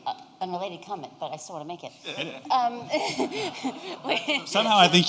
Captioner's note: laughter